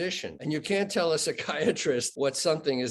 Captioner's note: chuckling